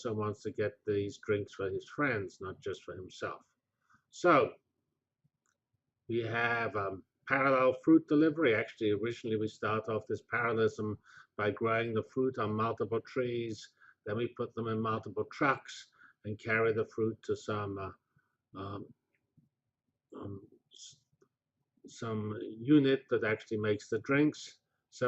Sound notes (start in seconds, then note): 18.4 pause